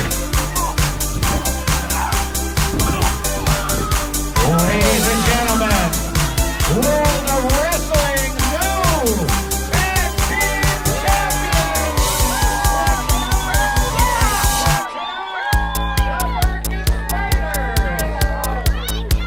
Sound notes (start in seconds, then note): 11.7 cheering; 15.4 yelling